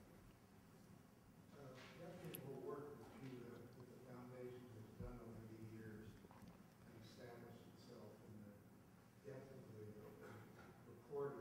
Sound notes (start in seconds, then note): 1.6 audience asking a question; 1.6 voiceover